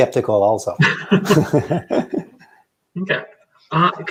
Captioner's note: both laughing